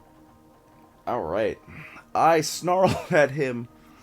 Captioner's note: chuckles